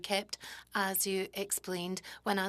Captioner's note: speaking French